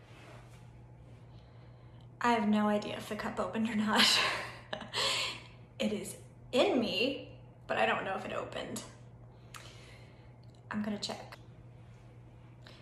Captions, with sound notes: I have no idea if the cup opened or not. (laughs) It is in me, but I don't know if it opened. I'm gonna check.